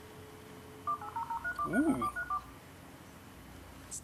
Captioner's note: ancient modem noises